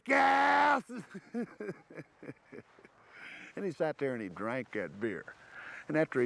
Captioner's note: laugh